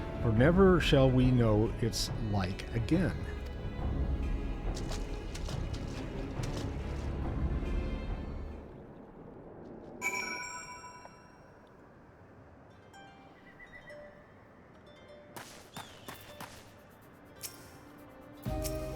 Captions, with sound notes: For never shall we know it's like again. [bell rings]